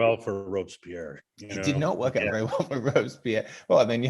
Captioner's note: chuckling